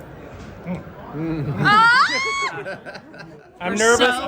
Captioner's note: squeals